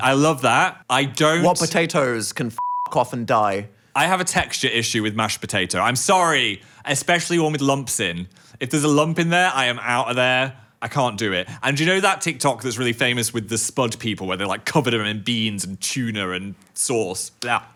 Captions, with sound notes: - I love that. - What potatoes can (beep) off and die? - I have a texture issue with mashed potato, I'm sorry. Especially one with lumps in. If there's a lump in there, I am out of there. I can't do it. And do you know that TikTok that's really famous with the spud people where they, like, covered them in beans and tuna and sauce?